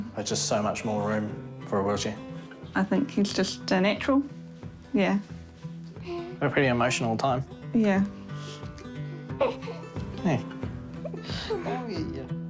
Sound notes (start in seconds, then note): 9.4 hiccups